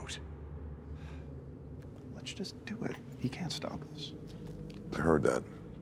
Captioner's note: sighs